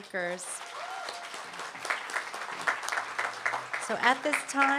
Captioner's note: applause